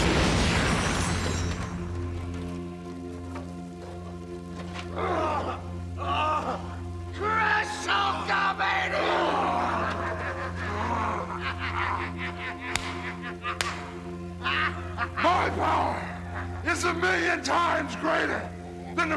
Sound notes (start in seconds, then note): 0.0 explosion booms; 3.2 ominous music; 4.8 Hulk grunting; 10.3 laughs